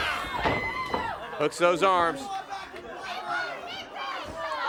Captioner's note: crowd chatter